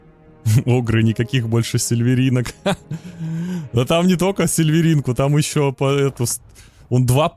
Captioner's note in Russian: смех